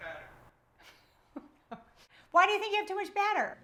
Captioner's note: laughs